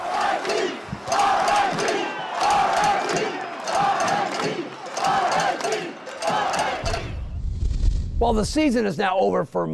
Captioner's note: chanting - rit - rit